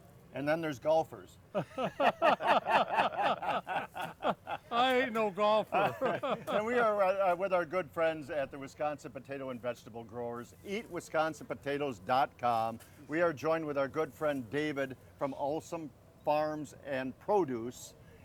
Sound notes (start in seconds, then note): 1.5 all laughing; 5.8 laughing